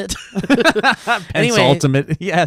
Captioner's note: laughing